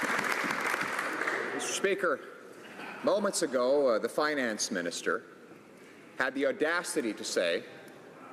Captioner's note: applause